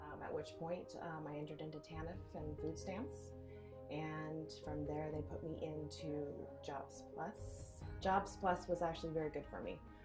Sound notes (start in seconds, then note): none